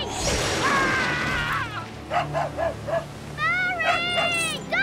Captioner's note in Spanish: Gritando